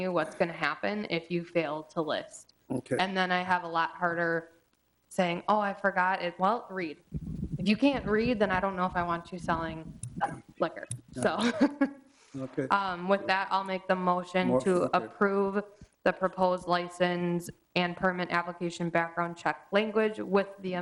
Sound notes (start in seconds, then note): 11.2 jovial giggles